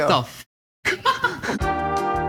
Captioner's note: crew member laughing; lounge music